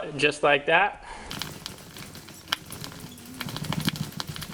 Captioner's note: metal scraping